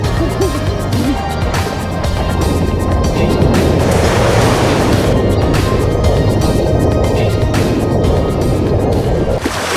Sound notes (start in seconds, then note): 0.1 laughing; 4.4 waves crashing